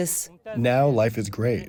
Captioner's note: through translator